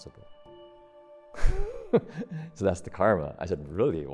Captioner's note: chuckles